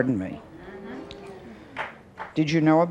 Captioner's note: audience mumbling